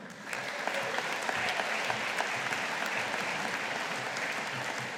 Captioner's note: audience applauding